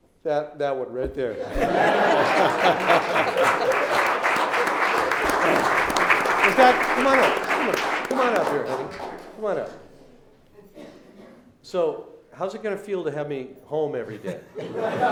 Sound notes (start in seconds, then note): 1.6 laughing; 1.6 clapping